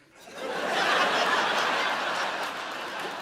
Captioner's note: audience laughs